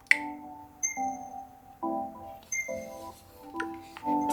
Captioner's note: console rings